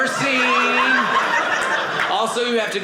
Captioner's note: audience laughing